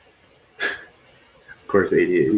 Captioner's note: chuckles